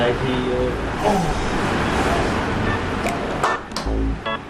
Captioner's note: automatic moaning sound